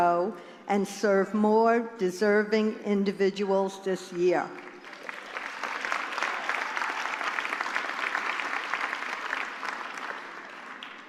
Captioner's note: applause